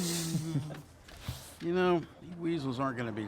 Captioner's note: all chuckling